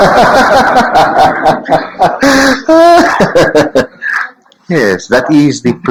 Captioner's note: laughs